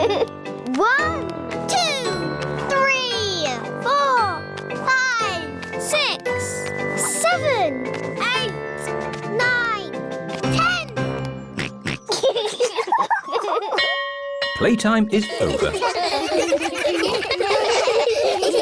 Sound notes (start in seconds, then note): 11.5 oinks; 11.6 both laugh; 13.7 bell chimes